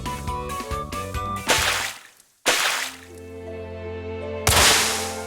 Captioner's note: splash, splash